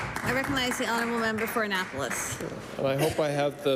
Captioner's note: applause